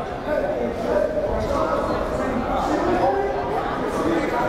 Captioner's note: crowd murmuring